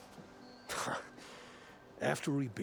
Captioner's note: laugh